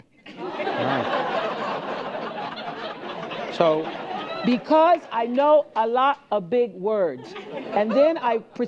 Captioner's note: laughter